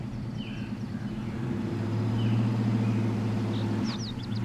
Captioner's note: engines purring